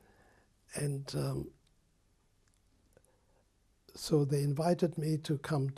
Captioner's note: pauses for 3 seconds